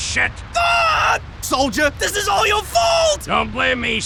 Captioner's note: screams